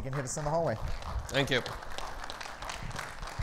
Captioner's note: audience clapping